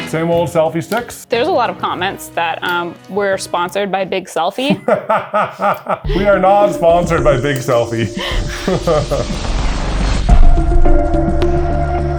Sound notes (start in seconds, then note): 4.6 laughs; 8.8 slow mystical music